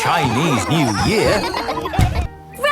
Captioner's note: laughter